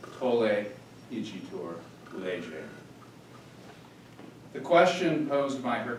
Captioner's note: speaking in foreign language